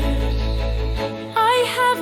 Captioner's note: Tishrei softens. Ensemble hums